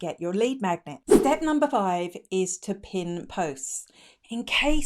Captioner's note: air whooshing